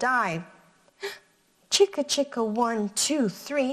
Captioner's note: gasps